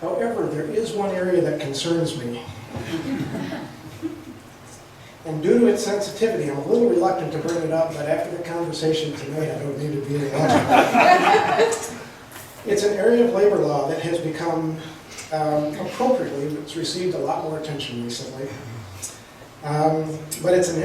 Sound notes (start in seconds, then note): 2.7 chuckles; 10.4 laughs